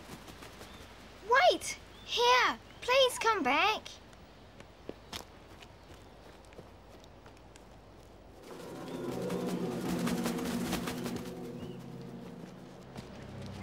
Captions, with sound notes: - Wait! Here, please come back. (wings flap)